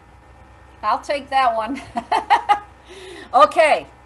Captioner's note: laughs